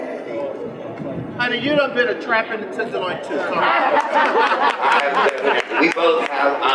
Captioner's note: general laughter